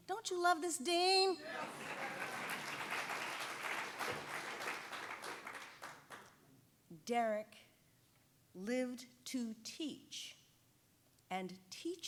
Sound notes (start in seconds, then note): 1.4 audience applauding